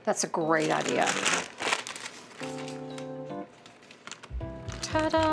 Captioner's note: paper rustling